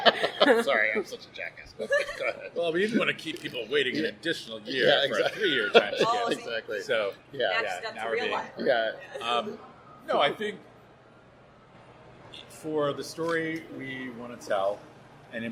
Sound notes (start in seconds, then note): 6.3 laughs